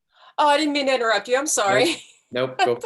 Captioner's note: laughs